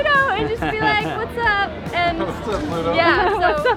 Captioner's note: laughing